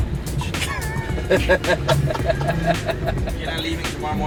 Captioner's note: laughing